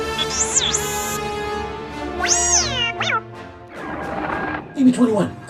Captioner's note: BB-21 speaks gibberish